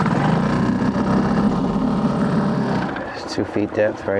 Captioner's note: engine revving